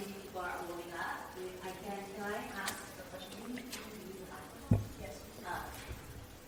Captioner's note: woman talking in background quietly